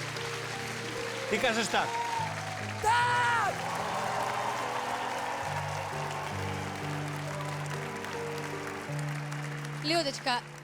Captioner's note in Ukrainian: оплески; оплески